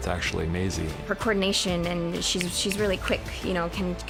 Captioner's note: clicks fingers